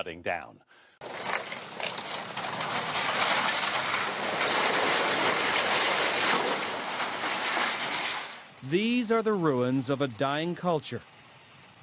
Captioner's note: demolition Sounds